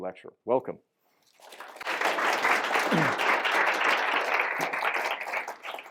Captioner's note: applause